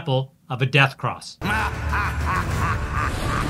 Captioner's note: evil laughter